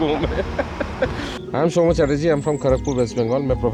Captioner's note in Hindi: हंसी